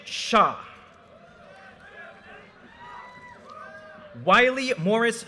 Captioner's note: audience cheers and applause